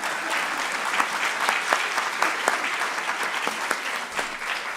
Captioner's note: audience laughing; audience clapping